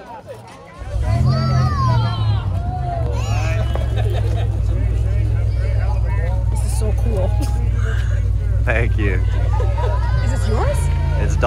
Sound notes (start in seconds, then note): 0.7 car starts